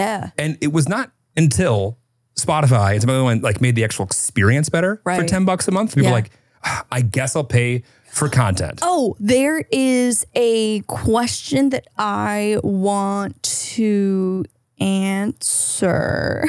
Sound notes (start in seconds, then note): 13.1 laughs